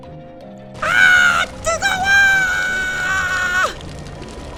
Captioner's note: screams